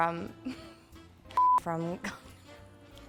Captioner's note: electronic beeping; laughs; electronic beeping